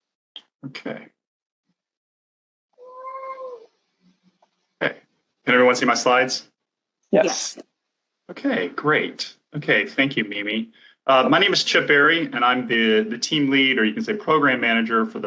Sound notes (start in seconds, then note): 2.8 cat meows